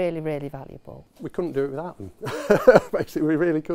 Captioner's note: laughing loudly